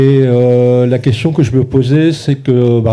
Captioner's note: speaking in French